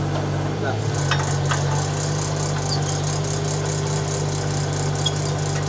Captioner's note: excavator humming